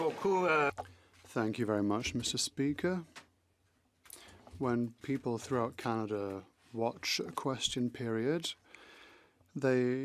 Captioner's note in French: voix de l'interprète